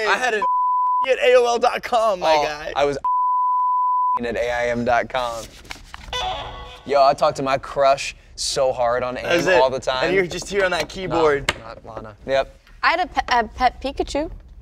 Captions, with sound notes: (beep) @AOL.com, my guy. I was (beep) @AIM.com. Yo, I talked to my crush so hard on AIM all the time. That's it, and you're just here on that keyboard. Not Lana. I had a pet Pikachu.